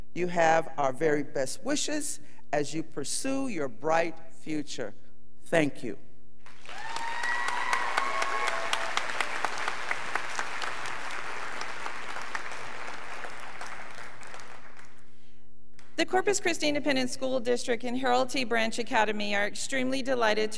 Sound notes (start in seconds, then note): 6.5 students applauding